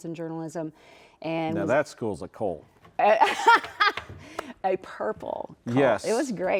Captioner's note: laughs